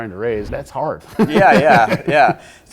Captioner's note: laughs